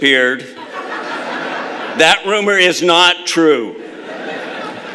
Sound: laughter; laughter

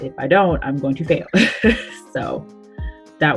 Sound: laughs

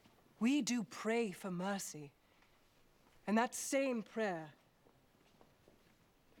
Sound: none

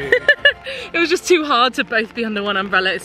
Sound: laughs

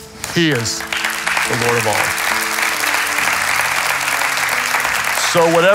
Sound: congregation claps

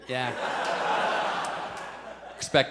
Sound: audience laughs

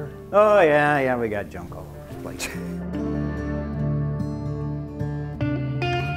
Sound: laughs

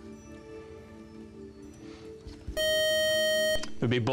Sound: time's-up buzzer

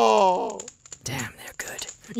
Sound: whispering

